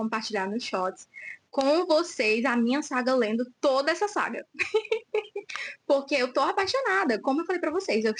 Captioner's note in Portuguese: risadas